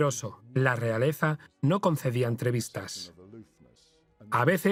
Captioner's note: voiceover